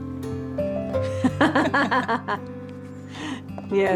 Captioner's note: laughing